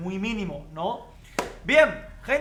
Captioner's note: claps in Spanish